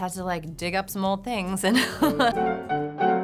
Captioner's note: laughs; piano music